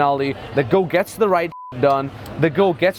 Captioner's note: beep